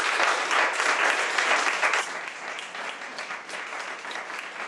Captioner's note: audience applauds